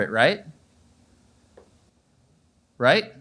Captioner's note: audience is Silent